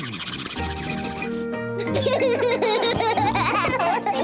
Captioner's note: spluttering; all laugh